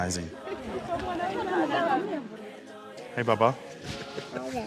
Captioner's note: people chattering